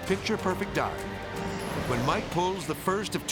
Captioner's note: dramatic whoosh